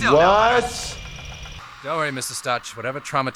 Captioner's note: machine whirling